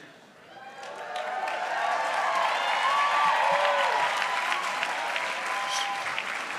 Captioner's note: applause